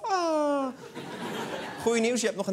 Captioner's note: laughter